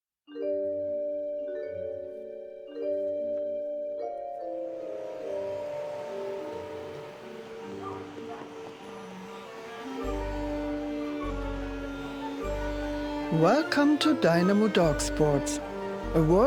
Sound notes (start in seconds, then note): 0.5 gentle whimsical music; 5.1 vacuum whirring; 7.5 dog barking